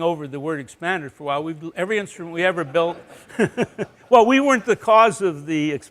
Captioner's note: laughter